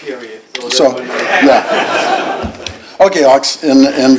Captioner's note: laughter